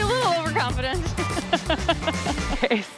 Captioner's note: laughs